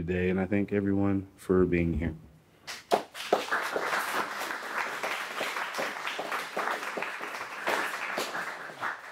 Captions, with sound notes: and I thank everyone for being here. (audience applauding)